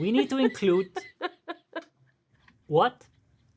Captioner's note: laughing